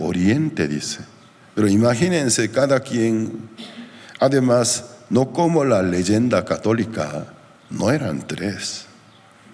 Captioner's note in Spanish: carraspeo